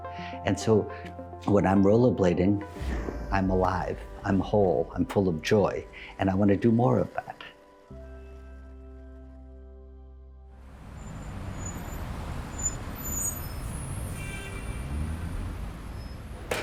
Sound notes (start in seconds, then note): 7.8 soft music; 10.7 vehicles screeching; 13.8 horn honks